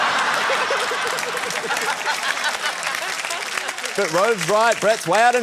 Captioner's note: laughter, applause